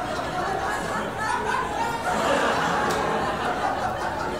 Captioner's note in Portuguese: risadas